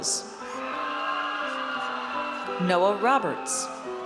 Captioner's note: audience cheers